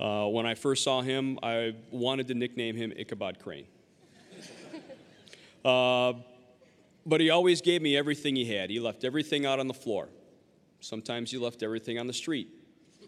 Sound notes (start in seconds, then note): 4.1 audience laughing